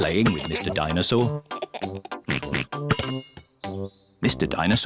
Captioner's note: laughs and oinks